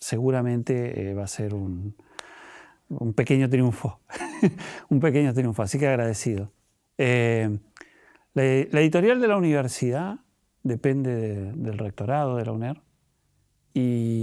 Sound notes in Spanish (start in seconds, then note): 4.1 risas